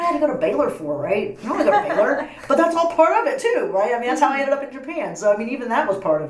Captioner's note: laughs